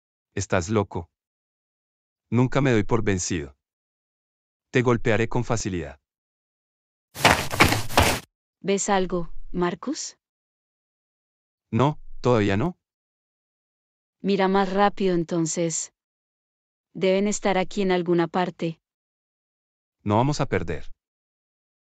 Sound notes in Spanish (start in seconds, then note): 7.1 FX - Footsteps - On Multiple Dirt - Run